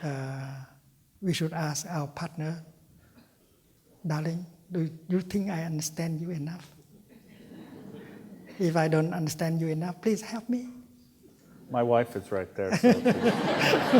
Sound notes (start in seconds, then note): 10.8 laughter